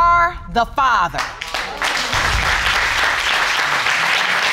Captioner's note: crowd applauding